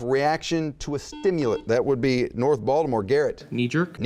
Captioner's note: buzzing